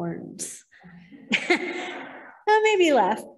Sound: laughter

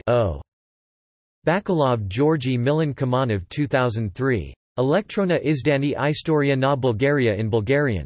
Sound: in Bulgarian

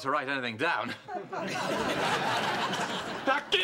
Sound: laughter

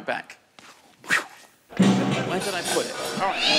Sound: cat meows

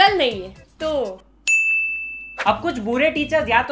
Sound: ping of approval

